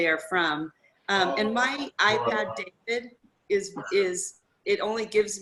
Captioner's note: electronic interference